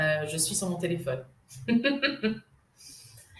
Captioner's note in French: rire